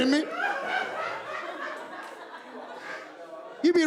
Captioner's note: laughter